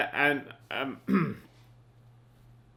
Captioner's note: clears throat